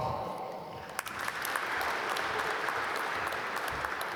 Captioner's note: applause